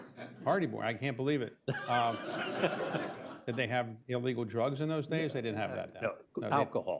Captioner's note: laughter